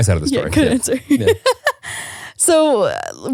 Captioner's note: laughing